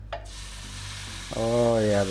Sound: pan sizzles

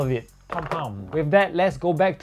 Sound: mini explosions

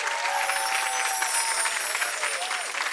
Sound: chiming

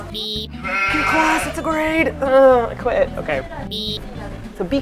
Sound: sheep sound

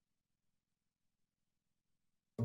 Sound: audio drops out

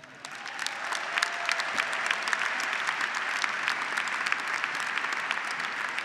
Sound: graduates and audience applauding

